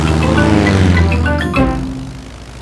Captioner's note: plane engine revving